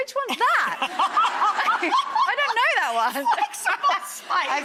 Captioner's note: laughs